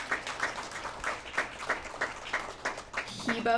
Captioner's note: applause